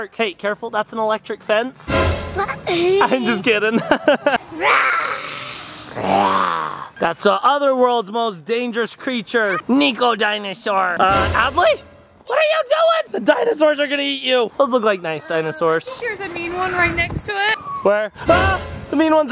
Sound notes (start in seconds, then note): 2.4 laughs; 2.7 suspense sound effect